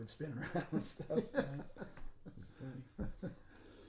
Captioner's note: laughing